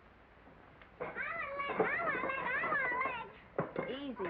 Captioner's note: children clamor